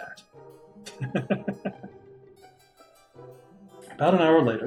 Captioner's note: chuckles